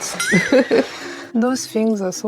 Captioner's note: laughs